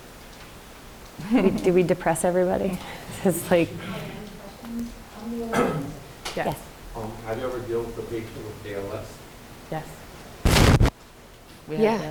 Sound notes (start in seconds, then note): 1.1 chuckles; 5.0 moderator speaks away from mic